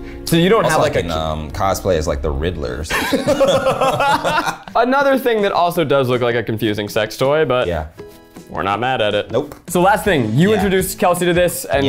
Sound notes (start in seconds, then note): 2.9 laughing